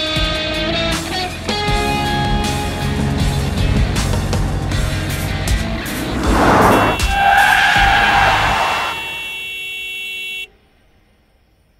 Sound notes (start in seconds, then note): 5.9 car honking, tires screeching